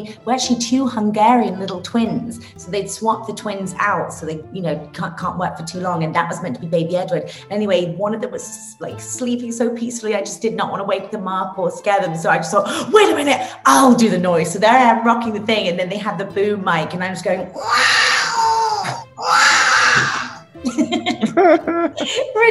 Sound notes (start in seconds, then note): 17.5 baby crying noises; 20.6 laughing